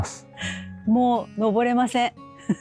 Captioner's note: bitter laugh